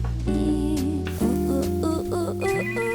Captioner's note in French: grésillement; sonnerie de téléphone